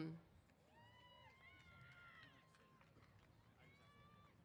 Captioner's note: cheers